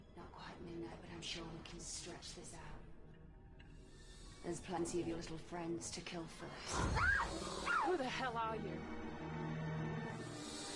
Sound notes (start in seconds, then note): 6.8 monstrous hissing and Arya screaming